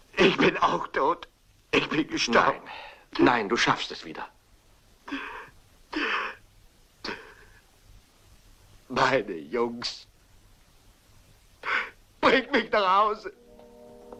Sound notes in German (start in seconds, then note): 7.8 sobbing